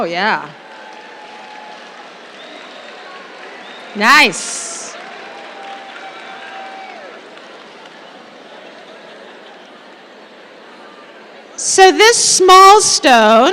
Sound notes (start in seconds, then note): 0.5 applause